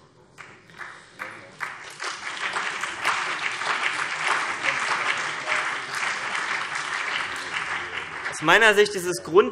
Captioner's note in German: Beifall CDU und BÜNDNIS 90/DIE GRÜNEN